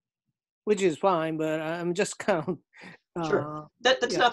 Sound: chuckles

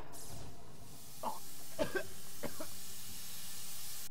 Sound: loud bang, air hissing; coughing

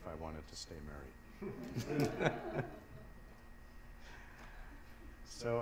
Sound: laughter

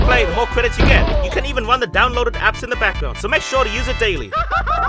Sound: Mario screaming

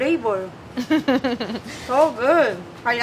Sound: laughs

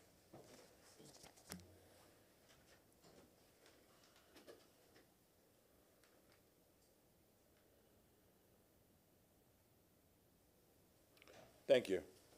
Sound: moment of silence

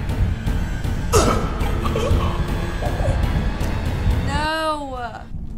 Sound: Henry grunts; intense music

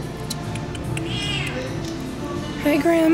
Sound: tongue clicks; meow

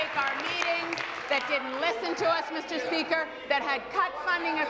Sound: applause

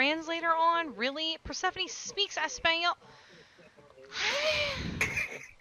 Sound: sighs; cracks up laughing

